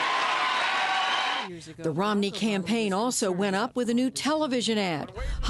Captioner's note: cheering and applause